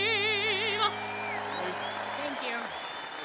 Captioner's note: audience cheering